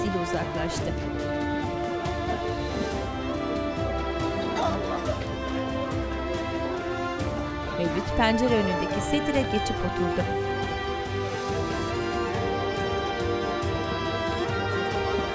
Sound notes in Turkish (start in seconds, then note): 0.8 Müzik - Hüzünlü; 0.8 İnleme sesleri